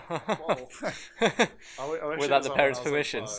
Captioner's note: laughs